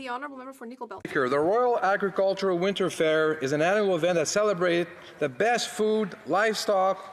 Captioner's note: some Applause